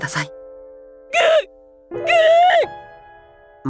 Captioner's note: sob